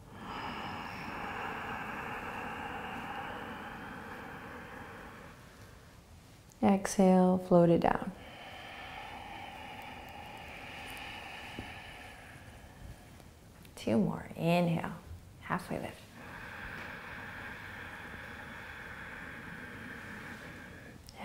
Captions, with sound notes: (inhaling) Exhale, float it down. (exhaling) Two more. Inhale. Halfway lift. (inhaling)